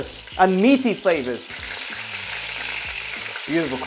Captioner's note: sizzling sound